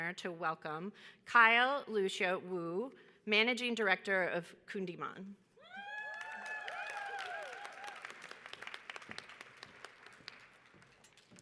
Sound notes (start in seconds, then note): 5.7 audience whoops; 8.0 audience applauds